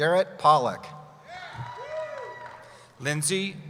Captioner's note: cheering